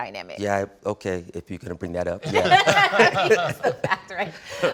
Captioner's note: laughing